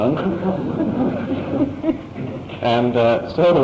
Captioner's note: laughter